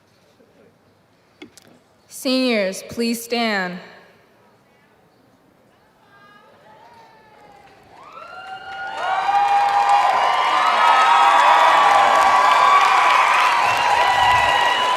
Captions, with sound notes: >> Seniors, please stand. (Applause)